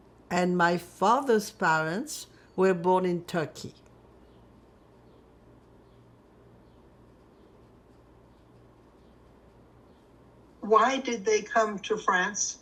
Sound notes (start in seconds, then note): 3.7 pauses 6 seconds